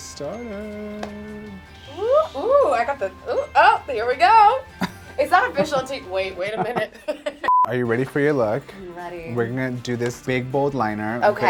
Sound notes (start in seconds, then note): 6.1 laughing; 7.4 beep